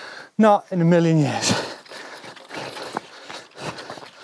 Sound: panting

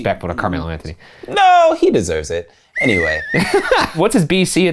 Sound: whistle blowing

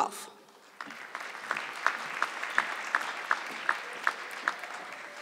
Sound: audience clapping

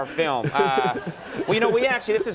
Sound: Tim and audience laughing

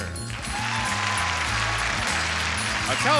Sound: audience applauds

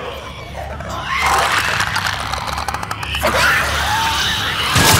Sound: clicker noises; gunshots

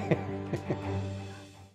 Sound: laughs

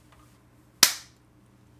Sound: clap

